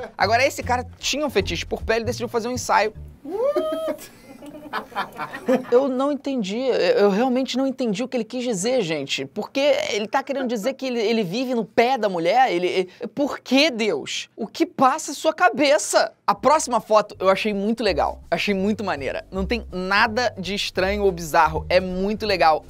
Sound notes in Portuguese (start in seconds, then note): 3.4 risadas